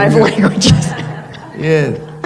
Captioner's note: laughter